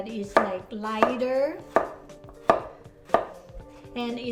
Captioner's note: knife chopping